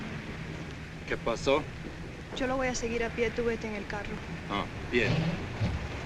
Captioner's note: speaking spanish